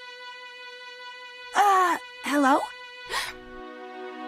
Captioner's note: gasps